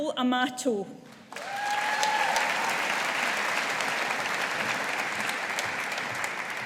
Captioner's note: audience applauding